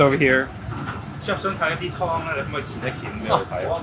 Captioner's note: speaking in foreign language; chef 1 speaking in foreign language